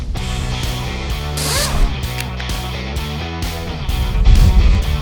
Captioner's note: drilling